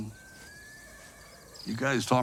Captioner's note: horse neighing